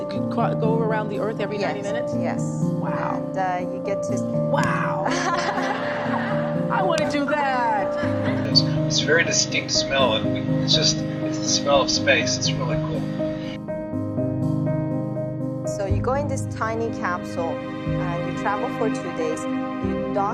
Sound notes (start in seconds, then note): 5.0 laughter; 7.4 slaps couch